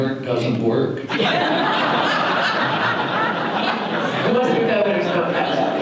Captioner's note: audience laughter